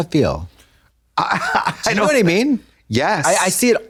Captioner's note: Trixie tee-hees